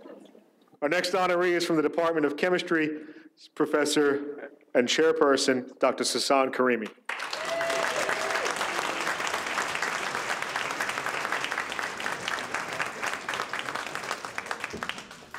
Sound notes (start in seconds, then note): 7.0 audience applauds